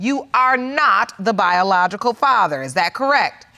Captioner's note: none